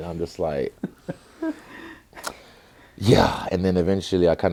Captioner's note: laughs